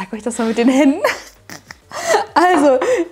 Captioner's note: laughing